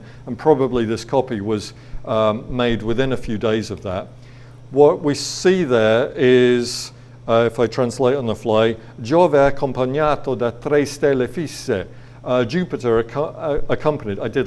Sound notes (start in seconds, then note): 9.3 speaking foreign language